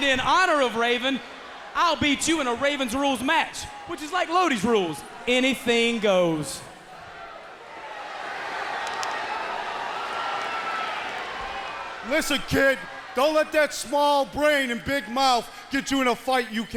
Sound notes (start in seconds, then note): 8.2 crowd chatter